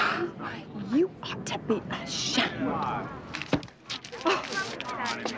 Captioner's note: crowd murmuring; gasps